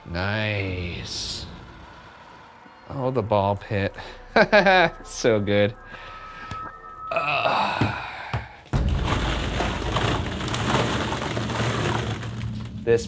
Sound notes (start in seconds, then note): 4.0 chuckles; 7.1 grunts; 8.7 plastic balls rustling